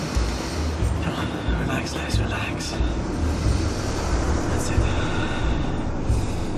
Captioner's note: deep breath